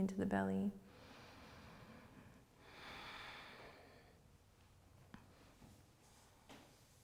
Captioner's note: breathes deeply